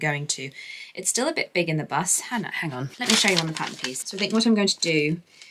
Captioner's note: paper rustles